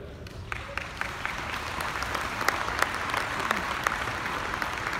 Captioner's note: audience applauding